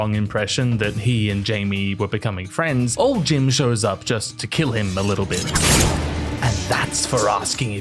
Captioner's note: stab